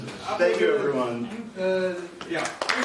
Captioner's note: applause